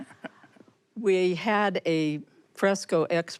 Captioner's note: chuckles